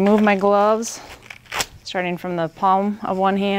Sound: rubber glove slapping

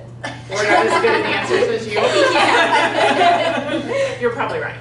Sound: laughing

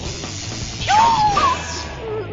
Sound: elderly woman yells

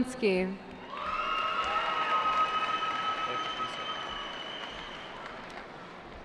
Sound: cheering

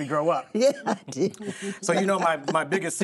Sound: laughing

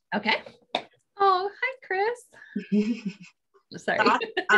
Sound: laughing

